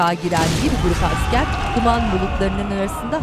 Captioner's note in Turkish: Patlama sesi; Çığlık sesleri